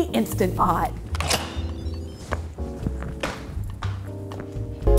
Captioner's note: melodic beeps